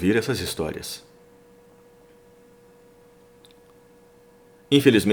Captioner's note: Hi-Tech silence